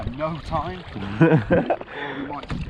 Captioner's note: laughing